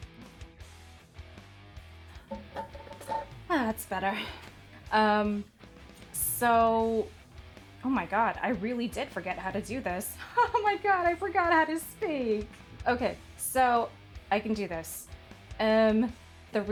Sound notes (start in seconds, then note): 3.3 sighs